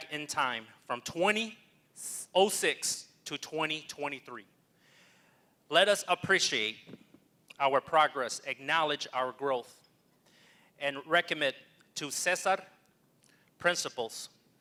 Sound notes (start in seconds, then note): none